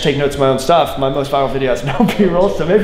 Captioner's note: laughs